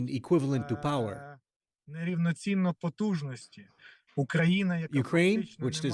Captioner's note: speaking alternate language